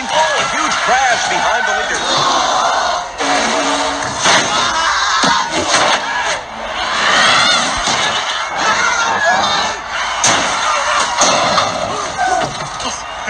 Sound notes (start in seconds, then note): 4.2 Rev Roadages and Buck Bearingly shouting; 6.7 Dud Throttleman screaming; 9.9 crashing + Screaming; 11.8 tire Screech; 13.1 Bobby Swift chuckling; 13.1 Brian Spark laughing